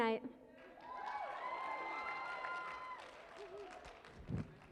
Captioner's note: cheering and applause